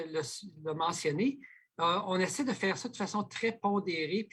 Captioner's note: speaking French